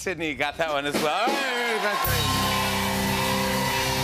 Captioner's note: cheers and applause